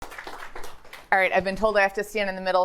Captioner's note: audience applauding